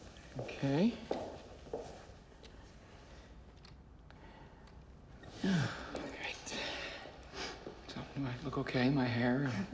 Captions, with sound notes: Okay. [sighs] Right. So, do I look okay? My hair, and--